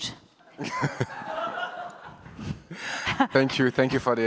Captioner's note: audience chuckles